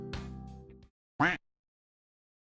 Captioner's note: duck quack sfx